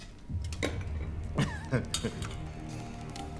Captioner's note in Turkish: Vasilius gülme sesi